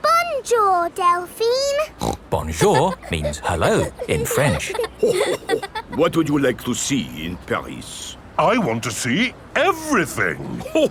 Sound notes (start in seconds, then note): 2.0 snorts; 5.3 chuckles